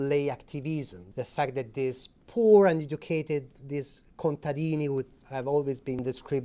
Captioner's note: speaking Italian